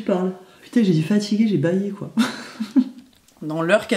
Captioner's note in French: Rires